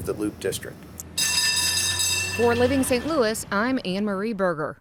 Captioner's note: trolley bell ringing